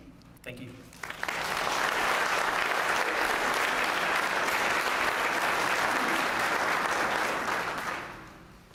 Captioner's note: applause